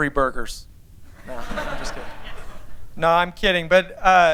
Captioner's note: laughter